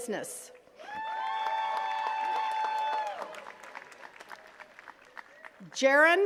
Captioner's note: attendees cheering and clapping